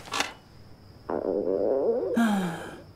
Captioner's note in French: Ventre qui grogne